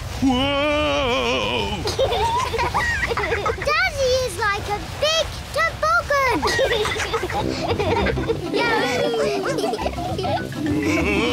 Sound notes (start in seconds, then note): 2.1 both giggle; 9.7 all giggle